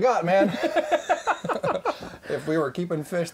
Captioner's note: laughing